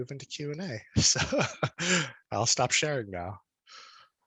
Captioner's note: laughs